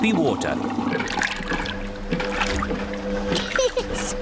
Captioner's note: machine rumbles; giggles